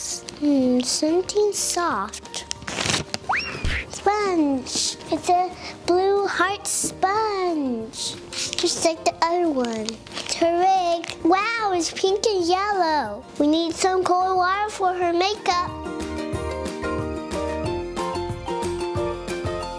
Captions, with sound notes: Hm, something soft. (crinkles) (playful music) Sponge! It's a blue hearts sponge just like the other one. It's her wig. Wow, it's pink and yellow! We need some cool water for her makeup. (bright, upbeat music)